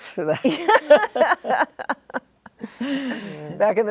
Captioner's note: all laughing